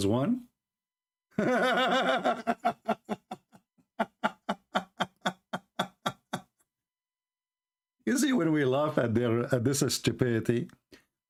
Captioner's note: Gelak ketawa